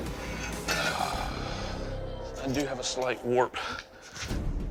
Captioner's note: sighs